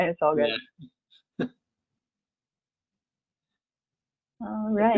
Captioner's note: chuckles